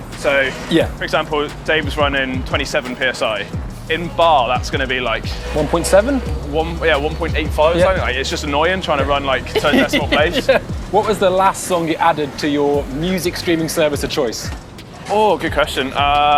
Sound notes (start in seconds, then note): 9.1 laughs